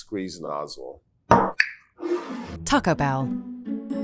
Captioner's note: bottle thuds and scrapes